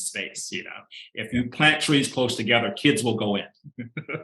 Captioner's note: chuckling